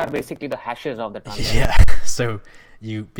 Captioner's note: laughing